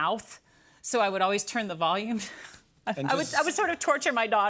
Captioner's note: chuckles